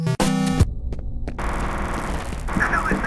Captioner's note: distant machine gun fire